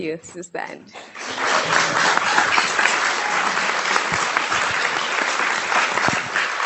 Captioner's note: audience and panelists clapping